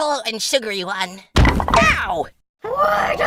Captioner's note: sound of blocks toppling, and one smacking book